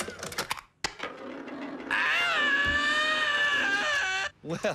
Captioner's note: screaming